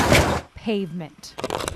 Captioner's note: tires clinking